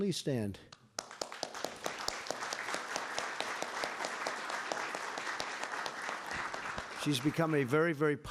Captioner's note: applause